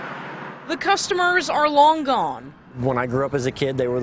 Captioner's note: sound of parking lot